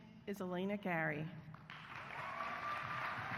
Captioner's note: applause